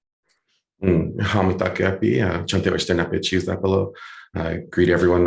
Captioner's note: speaking in foreign language